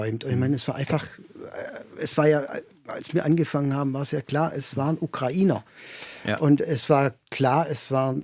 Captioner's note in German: räuspern